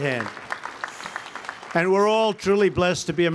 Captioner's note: applause